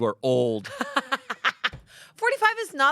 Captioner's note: Amanda laughs